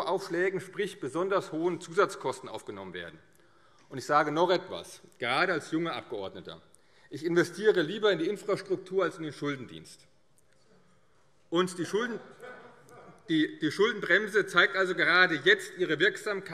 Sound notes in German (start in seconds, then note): 10.1 Lachen